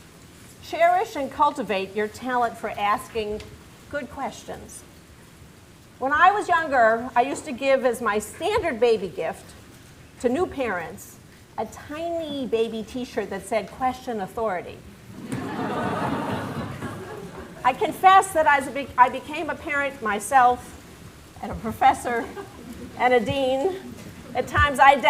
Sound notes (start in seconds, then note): 15.1 laughter